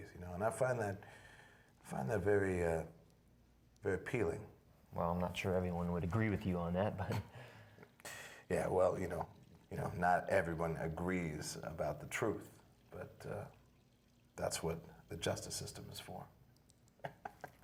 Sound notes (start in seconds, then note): 7.0 risas; 17.0 riendo